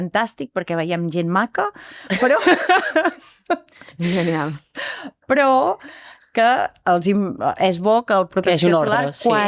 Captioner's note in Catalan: rialles